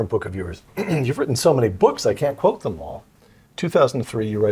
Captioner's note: cough